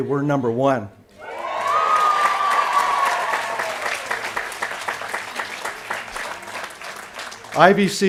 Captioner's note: applause & Cheering